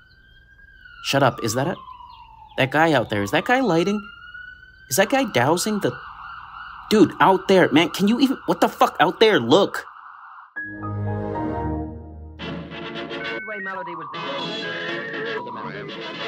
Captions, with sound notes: shut up – is that a – That guy out there – is that guy lighting – Is that guy dousing the – dude – out there – Man, can you even – what the fuck. Out there. Look! [operating system tone] [classical music] [internet dialup tone mixed with voices]